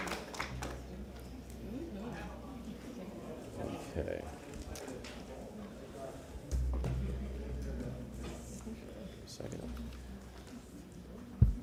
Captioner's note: applause